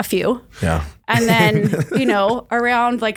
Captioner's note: laughs